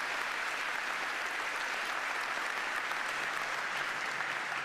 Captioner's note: applause